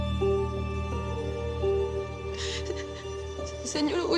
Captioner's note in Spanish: Sollozo